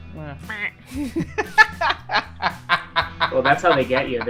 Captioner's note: laughter